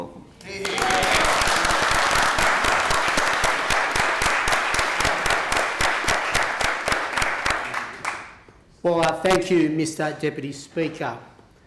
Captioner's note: applause